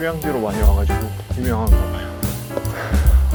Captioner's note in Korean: 헥헥